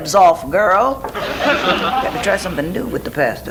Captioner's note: audience laughs